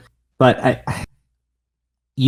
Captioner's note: sighs